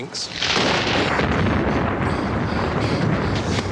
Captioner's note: thunder rumbling